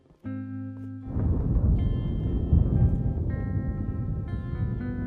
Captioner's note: thunderclap